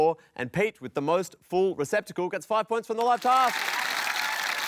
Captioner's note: applause